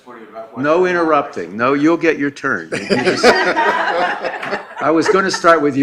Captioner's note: laughing